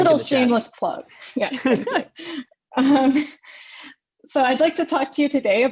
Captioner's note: both laugh